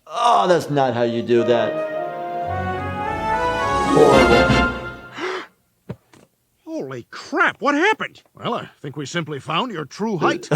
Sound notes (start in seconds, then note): 5.1 Peter gasps; 10.2 laughs